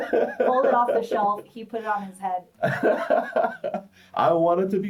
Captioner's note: laughs